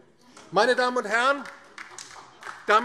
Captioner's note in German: Beifall DIE LINKE